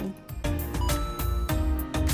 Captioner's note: ba ding!